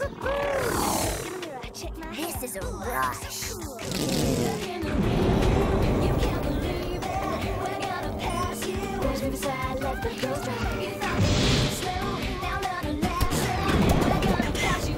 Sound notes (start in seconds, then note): 2.2 engine revs